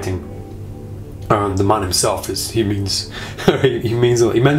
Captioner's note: laughs